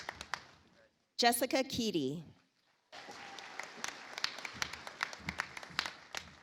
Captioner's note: audience applauds